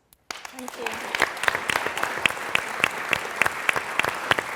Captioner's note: applause